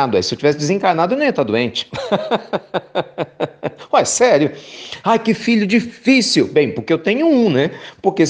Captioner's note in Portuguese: risos